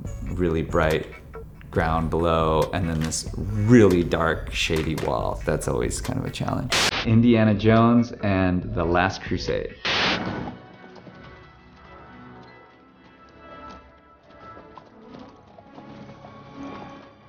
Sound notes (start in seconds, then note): 6.6 screen buzzes; 9.9 screen buzzes; 10.7 horse shoes clacking; 10.7 inspiring orchestral music